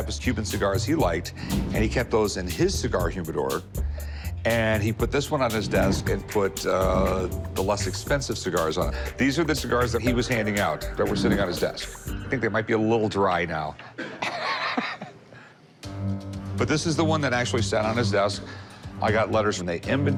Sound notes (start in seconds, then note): 14.0 laughs